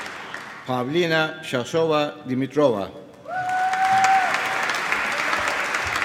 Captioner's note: cheering, applause